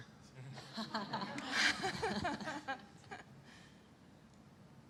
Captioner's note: laughter